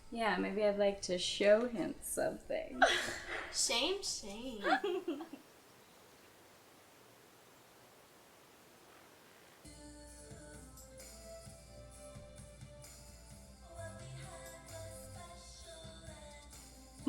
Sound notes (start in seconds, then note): 4.3 giggles